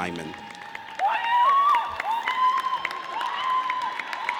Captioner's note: audience cheers